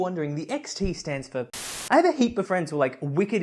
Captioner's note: Static